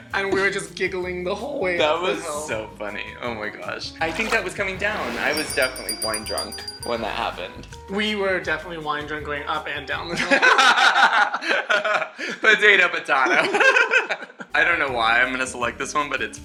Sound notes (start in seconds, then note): 10.5 laughs